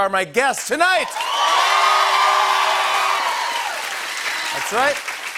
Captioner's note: cheers and applause